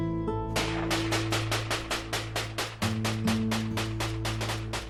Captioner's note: calm music; gun firing